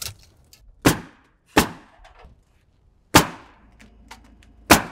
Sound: nail gun bangs

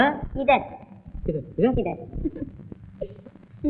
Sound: laughs

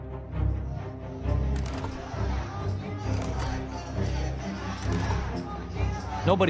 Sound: overlapping angry crowd chants

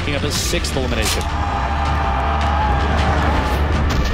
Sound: crowd cheering

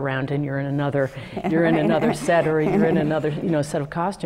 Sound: laugh

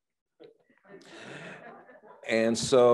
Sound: laughs

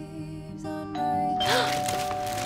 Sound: doorbell

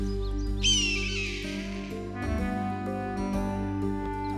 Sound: hawk screeching

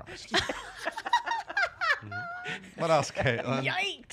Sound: laughter

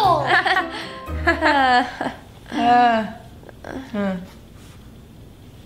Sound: both gradually stop laughing

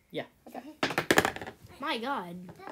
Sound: die rolling noises

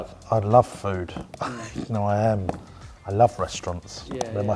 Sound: laughs

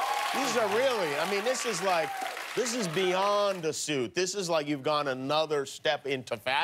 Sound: cheers and applause

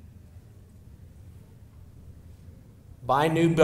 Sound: silence

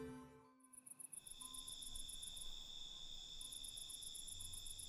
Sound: cicadas chirping

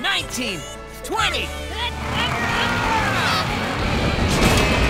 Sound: grunting

